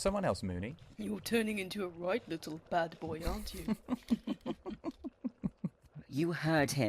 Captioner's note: laughing